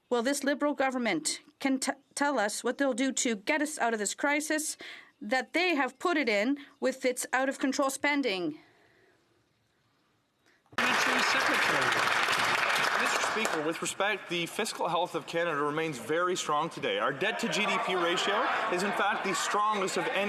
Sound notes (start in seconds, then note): 14.0 some Applause